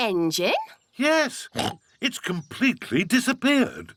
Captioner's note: oinks